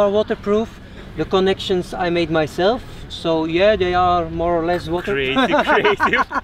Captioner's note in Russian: смеётся